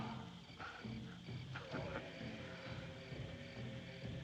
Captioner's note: chuckles